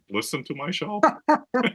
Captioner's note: laugh